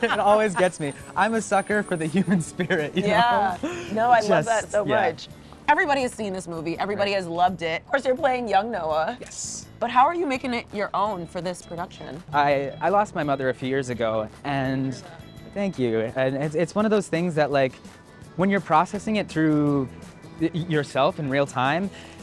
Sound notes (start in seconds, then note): 0.0 laughing